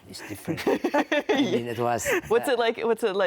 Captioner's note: giggles